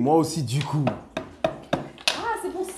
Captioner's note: toc Toc Toc Toc